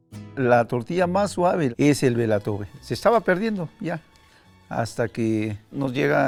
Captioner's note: speaking in foreign language